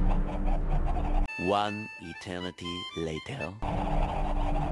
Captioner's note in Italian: Con accento francese